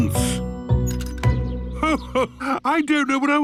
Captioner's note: Belinda sighing